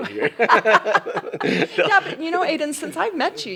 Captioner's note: laugh